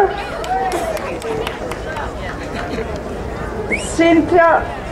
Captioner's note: crowd applauding